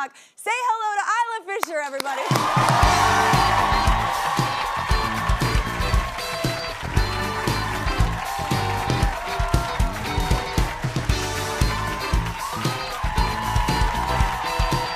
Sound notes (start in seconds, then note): 2.2 audience applauding; 2.2 upbeat music